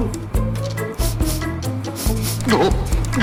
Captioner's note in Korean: 킁킁 킁킁